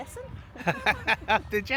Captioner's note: laughing